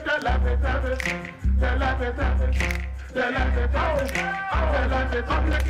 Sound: fingers snapping to music

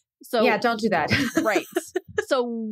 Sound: laughs

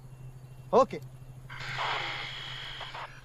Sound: radio static

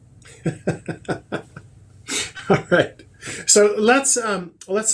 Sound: laughs

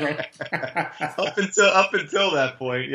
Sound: laughing

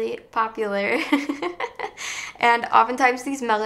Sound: laughs

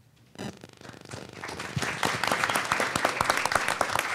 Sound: crowd applauding

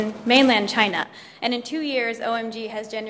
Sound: speaks in Mandarin

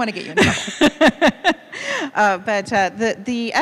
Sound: laughing

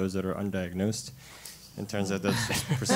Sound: laugh

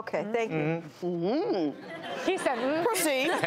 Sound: hums; audience laughs

